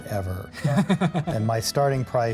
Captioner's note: laughs